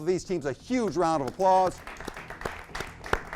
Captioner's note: audience clapping